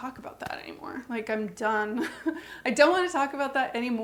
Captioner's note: scoffs